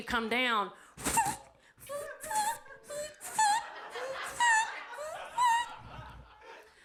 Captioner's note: imitates air squeaking; audience laughs